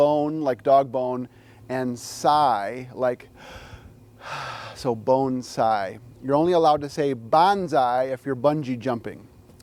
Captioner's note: sighs